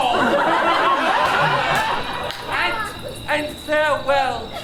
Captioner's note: audience laughs